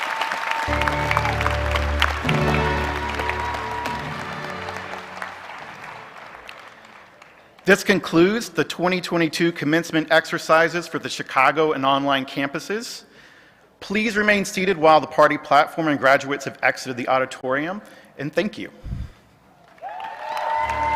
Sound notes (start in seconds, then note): 4.3 cheers and Applause